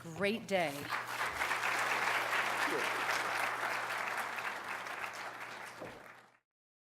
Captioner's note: applause